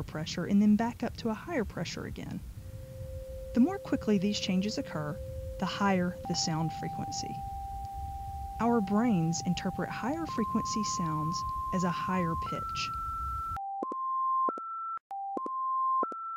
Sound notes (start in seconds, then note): 13.3 higher and higher pitch sounds